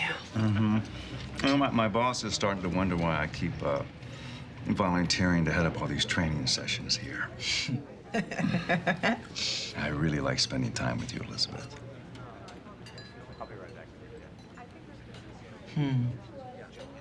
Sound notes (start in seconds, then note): 6.4 laughs